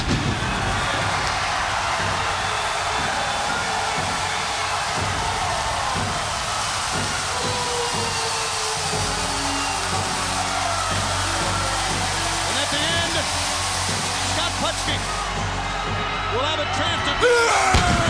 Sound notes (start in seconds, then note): 4.0 crowd cheering